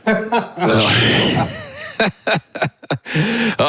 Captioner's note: all laughing